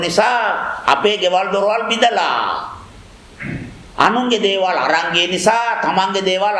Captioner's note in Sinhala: උගුර කෑරීම